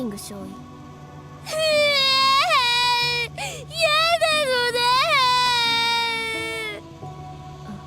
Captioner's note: sob